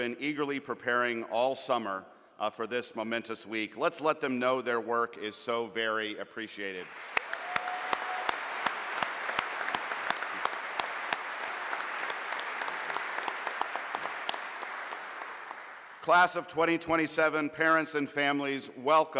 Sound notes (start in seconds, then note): 7.5 audience applauding